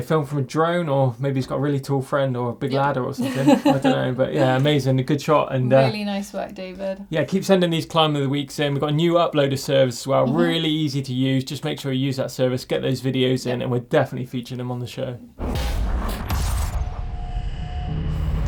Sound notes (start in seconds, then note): 2.7 laughing